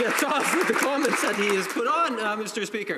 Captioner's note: applause